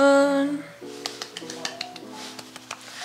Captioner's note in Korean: 짝짝짝